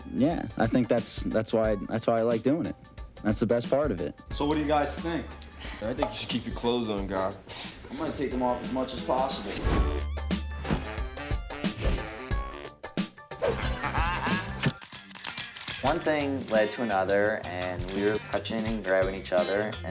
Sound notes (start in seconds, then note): 10.3 upbeat music; 14.6 camera clicking